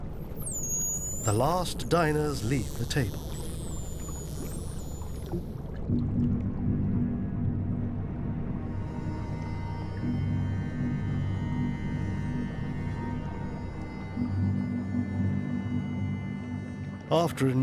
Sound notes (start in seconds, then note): 0.2 dolphins squeaking; 6.2 light eerie music